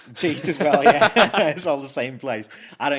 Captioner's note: both laughs